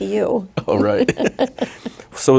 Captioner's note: laughing